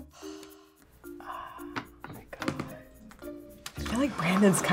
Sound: sighs

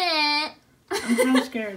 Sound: laugh

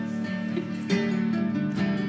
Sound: small Chuckle

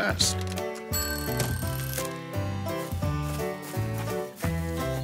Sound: timer dinging

